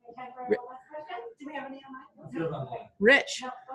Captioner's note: woman speaking faintly